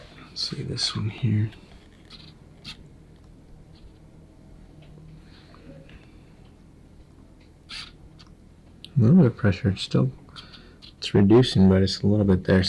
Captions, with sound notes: Let's see, this one here. (rustling) A little bit of pressure, it's still... It's reducing but it's a little bit there.